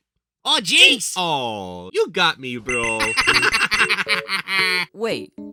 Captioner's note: laughs